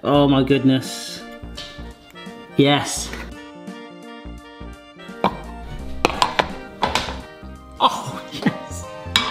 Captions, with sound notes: Oh my goodness. Yes. (pop) (metal clanging) Oh, yes.